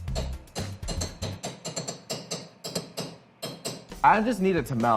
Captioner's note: rhythmic tapping